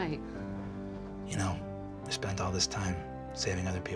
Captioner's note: deep voice